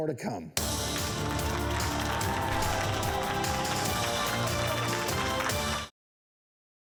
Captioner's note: upbeat music; audience applauding